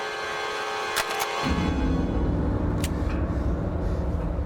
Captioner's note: gun clicking